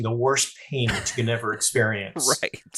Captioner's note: laughing